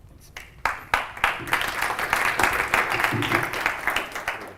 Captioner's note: applause